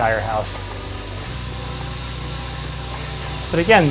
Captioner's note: trainer whirs